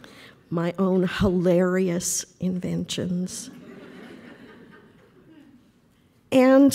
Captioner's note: laughter